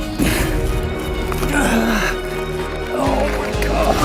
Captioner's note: groans slightly